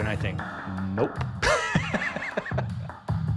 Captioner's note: laughs